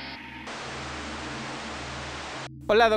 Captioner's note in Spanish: estática